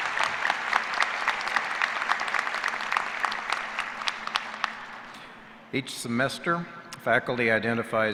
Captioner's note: cheers and applause